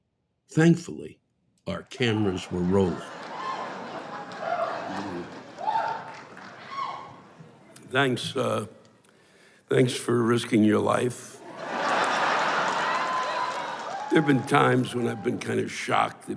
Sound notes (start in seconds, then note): 2.2 laughs and whoos; 11.4 laughter